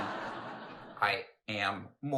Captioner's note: audience laughs